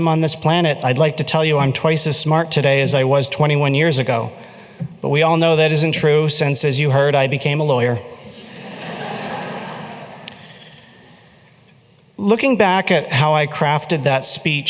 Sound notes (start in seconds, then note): 8.2 laughter